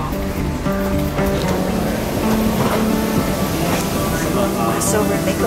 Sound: airplane engine humming

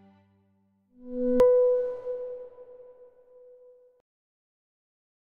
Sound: electronic pulse

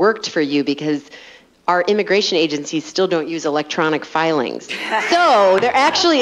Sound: laughter

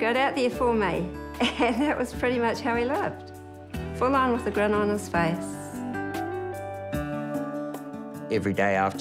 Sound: chuckles

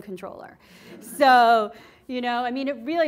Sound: class laughing

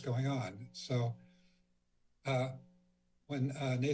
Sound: pause

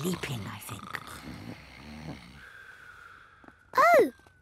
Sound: snoring

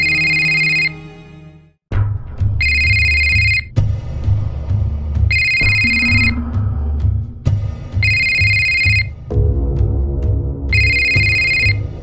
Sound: phone rings

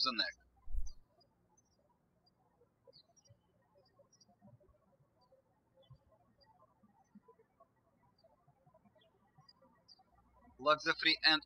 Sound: birds chirping

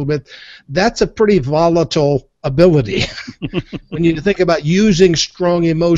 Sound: both laugh

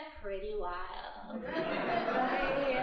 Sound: audience laughing

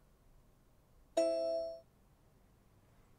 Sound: ding

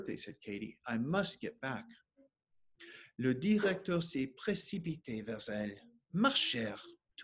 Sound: speaking French

